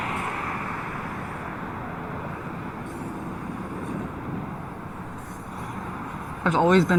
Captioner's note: car drives; paint sprays